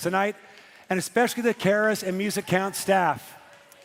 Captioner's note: cheering and Applause